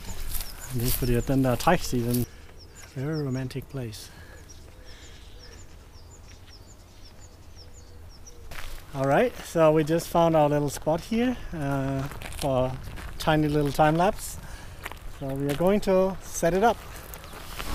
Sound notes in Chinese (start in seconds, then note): 0.5 丹麥語